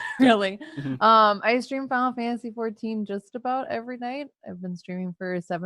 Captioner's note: laughs